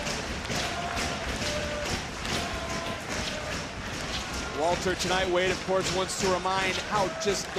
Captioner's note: crowd chanting "walter"